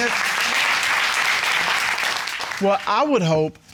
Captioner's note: applause